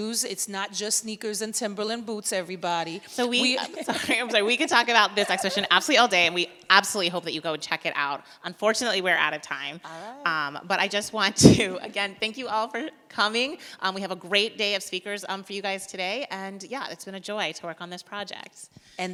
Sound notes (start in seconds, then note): 3.2 both laugh